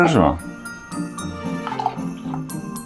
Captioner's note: pours wine in Lithuanian